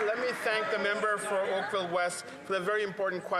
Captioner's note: some Applause